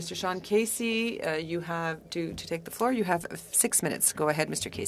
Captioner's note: speaking FRENCH